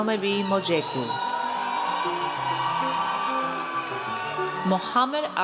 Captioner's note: audience cheers